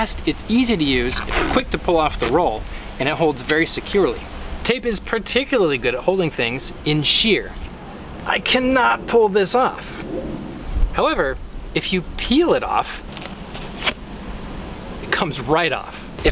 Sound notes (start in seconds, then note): 7.0 strained